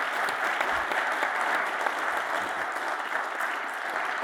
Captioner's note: audience applauds